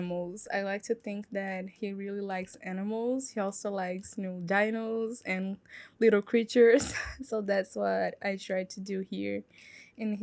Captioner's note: laugh